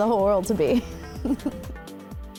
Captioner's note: laughs